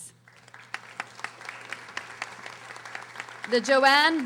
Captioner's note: audience applauding